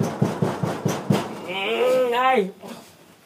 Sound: knocking the door; groans

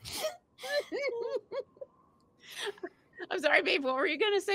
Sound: laughing

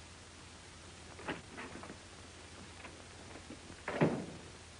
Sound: door opens and closes

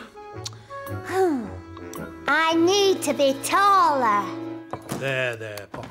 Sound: sighs

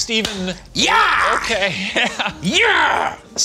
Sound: laughs

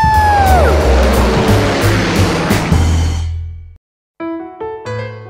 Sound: plane engine roaring; jazzy piano music

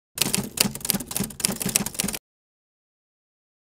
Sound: keyboard typing

